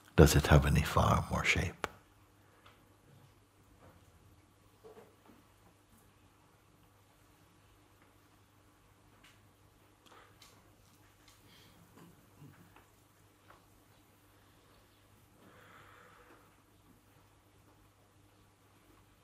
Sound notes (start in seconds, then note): 5.1 Stille